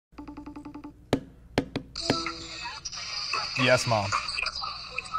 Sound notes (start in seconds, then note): 0.2 beeping; 1.6 tapping